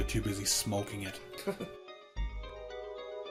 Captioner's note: chuckles